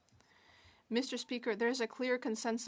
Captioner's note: speaking French